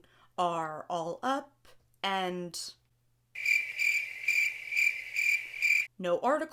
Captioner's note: crickets